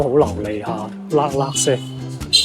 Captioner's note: luck lucky sound